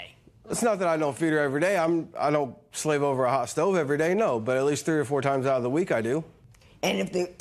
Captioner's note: none